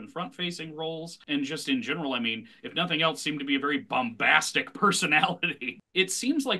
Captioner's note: chuckles